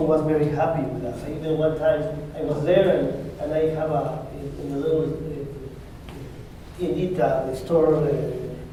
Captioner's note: spanish